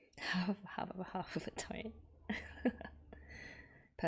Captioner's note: laughs